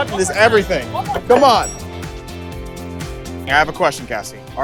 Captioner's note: bell dinging